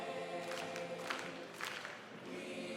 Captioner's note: all clapping